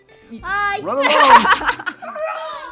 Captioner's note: laughing